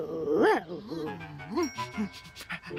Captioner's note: panting